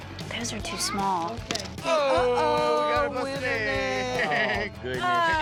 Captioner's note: egg drops, cracks